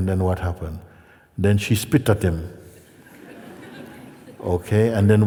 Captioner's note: laughter